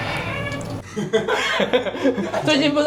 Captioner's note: deflated laughter